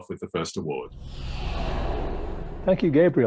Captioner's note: air swooshing